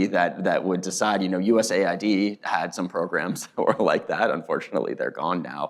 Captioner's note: laughs